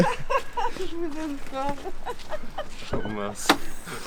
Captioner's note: laughs